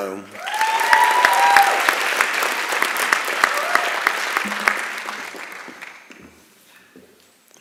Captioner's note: applause and Cheering